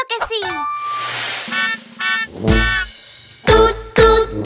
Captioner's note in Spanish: Sonido de bocina